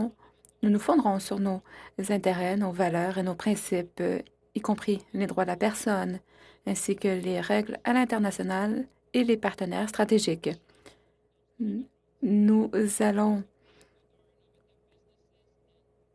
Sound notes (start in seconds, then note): 3.2 speaking French